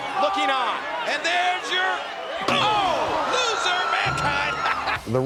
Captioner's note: laugh